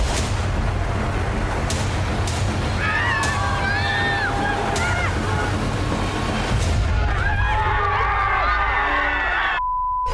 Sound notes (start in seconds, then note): 2.9 intense music playing; 6.8 cheering